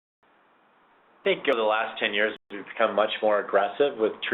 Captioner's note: voiceover